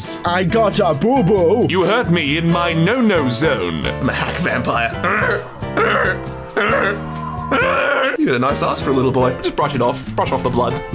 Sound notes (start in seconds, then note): 4.9 animal noises; 4.9 further animal noises; 4.9 more animal noises